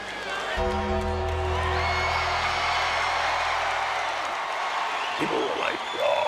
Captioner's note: crowd cheers; bell tolls